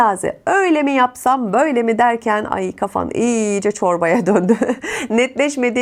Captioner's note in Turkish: kahkaha